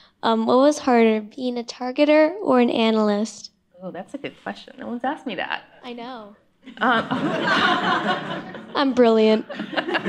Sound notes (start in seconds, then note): 6.7 laughter